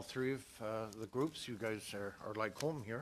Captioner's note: speaking english